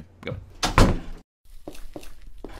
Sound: door close

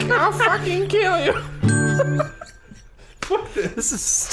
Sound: giggle

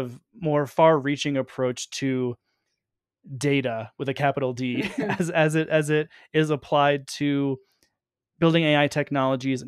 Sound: chuckle

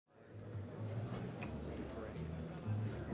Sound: chatter

